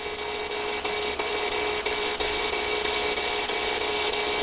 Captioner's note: static buzzing